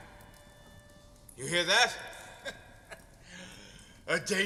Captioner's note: laughs bitterly